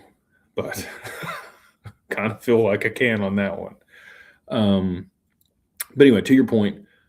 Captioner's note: laughter